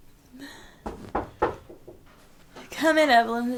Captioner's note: knocking